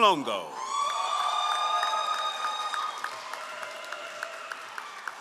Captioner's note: all applauding